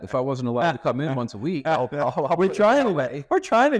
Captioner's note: laughing